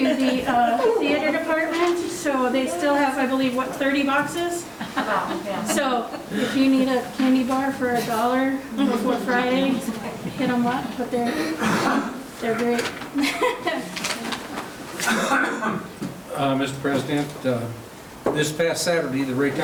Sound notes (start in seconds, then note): 4.7 laughing; 13.1 laughing; 15.0 man coughing